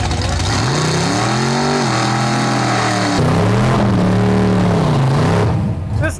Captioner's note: badass, unmuffled burnout sounds